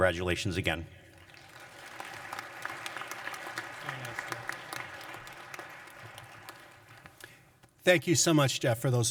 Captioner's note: applause